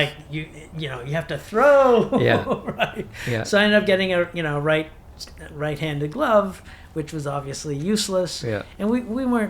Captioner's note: laughs